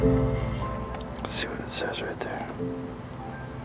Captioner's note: whispering